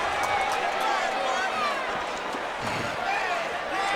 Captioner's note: crowd chattering